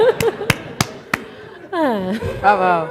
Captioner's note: laughter; applause